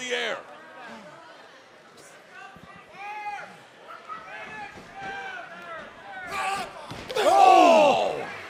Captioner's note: crowd chatter